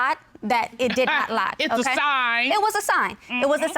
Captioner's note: chuckles